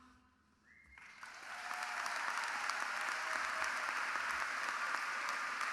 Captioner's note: audience applauding